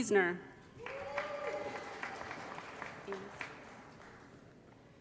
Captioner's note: applause & Cheering